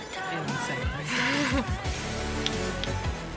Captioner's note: relieved laugh